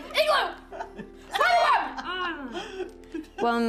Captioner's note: laughing